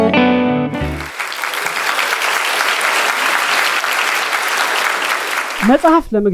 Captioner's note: applause